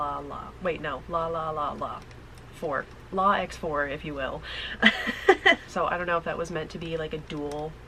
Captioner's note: laughing